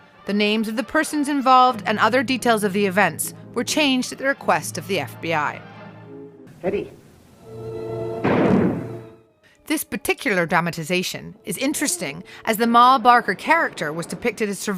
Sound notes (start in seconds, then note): 8.2 gunshot ringing out